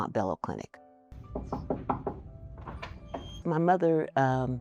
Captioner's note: knuckles rap